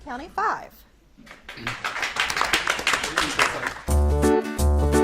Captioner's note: audience claps